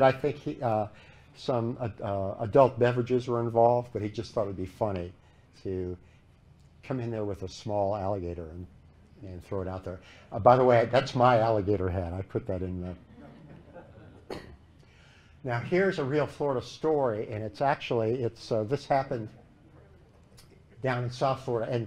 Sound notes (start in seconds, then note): 12.9 laughter